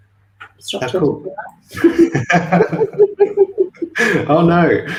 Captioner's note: laughter